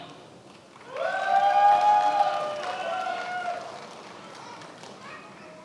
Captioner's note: attendees applauding